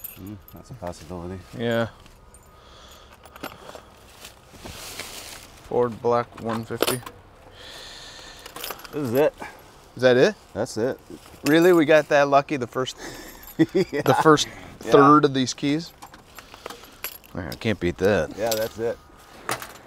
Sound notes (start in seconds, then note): 12.9 laughs